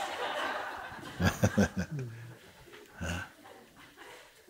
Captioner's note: laughter continues, laughs